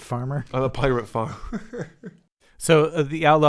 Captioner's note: laughter